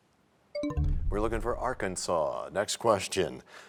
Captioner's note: bell chimes, time expires